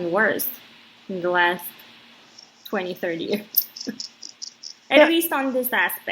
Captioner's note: chuckles